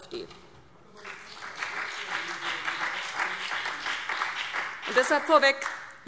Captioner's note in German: Beifall CDU und BÜNDNIS 90/DIE GRÜNEN